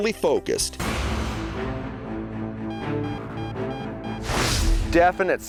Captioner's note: dramatic music; beeping